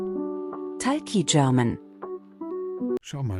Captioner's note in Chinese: 德语